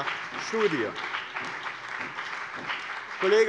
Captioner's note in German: Beifall bei dem BÜNDNIS 90/DIE GRÜNEN und der CDU